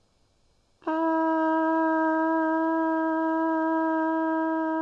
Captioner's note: horn blowing